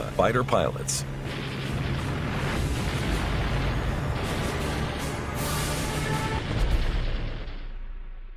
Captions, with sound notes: fighter pilots. [machine gun cracking]